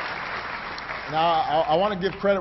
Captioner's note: applause